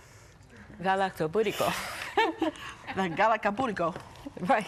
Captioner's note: foreign language